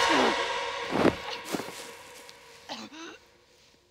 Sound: Brigit coughing

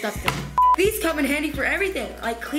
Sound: beep

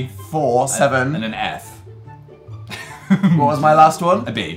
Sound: laughs

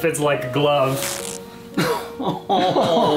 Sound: ripping sound

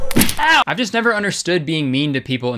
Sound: groans

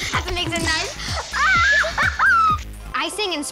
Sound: squeals, laughs

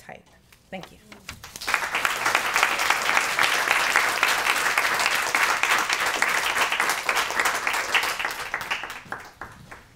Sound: applause

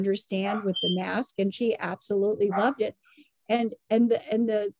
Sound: alarm sound and dog barking in background

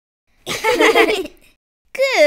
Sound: giggling

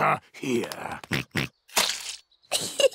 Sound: oinks; giggles

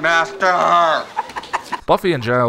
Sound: background heckling

